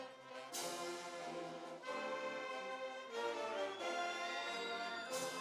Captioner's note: none